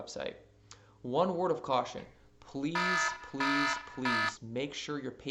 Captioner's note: firealarm